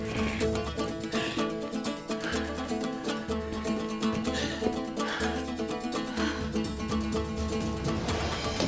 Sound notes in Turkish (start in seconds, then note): 0.0 Nefes sesleri; 6.6 Müzik - Hareketli